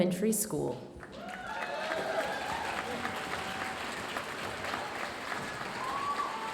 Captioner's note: audience cheering and applauding